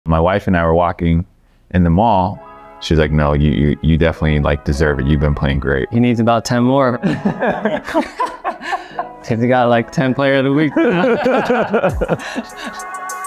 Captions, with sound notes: - My wife and I were walking in the mall. She was like, "No, you definitely like, deserve it. You've been playing great." - He needs about 10 more. [Jeremy and laughing] If you got like 10th player of the week. [Jeremy and laughing]